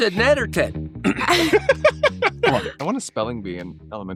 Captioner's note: all laughing